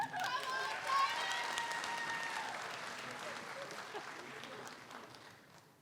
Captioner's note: audience applauds; audience cheers